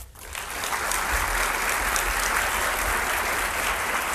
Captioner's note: audience applauds